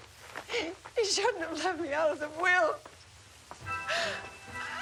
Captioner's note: whimpers; sobs